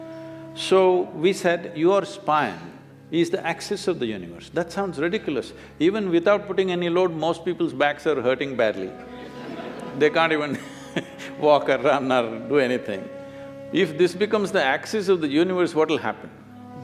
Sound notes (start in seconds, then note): 9.1 laughs